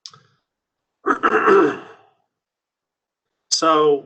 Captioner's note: clears throat